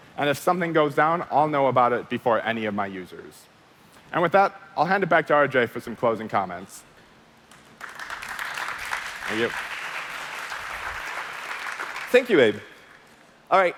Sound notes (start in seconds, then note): 7.5 applause